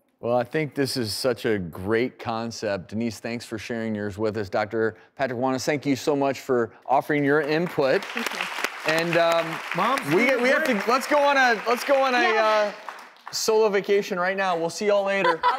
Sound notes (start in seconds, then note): 7.3 applause